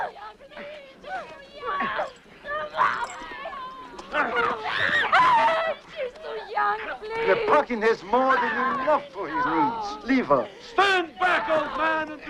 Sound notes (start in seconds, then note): 4.0 both grunting